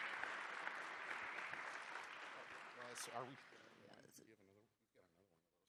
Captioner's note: applause